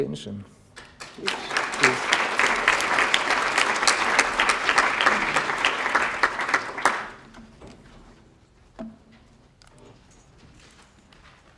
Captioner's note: applause